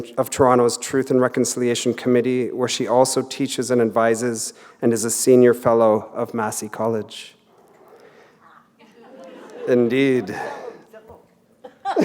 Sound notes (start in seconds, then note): 8.3 chuckle